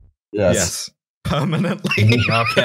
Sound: laughter

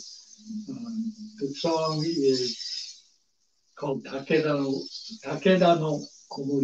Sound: speaks Japanese

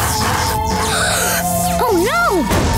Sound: howling

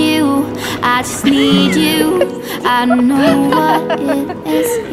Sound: laughing

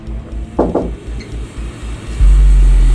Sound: knocking

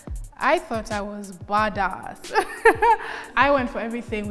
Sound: laughs

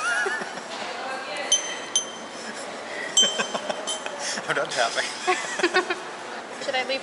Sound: laughter; more tapping

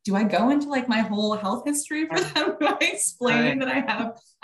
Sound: laughing

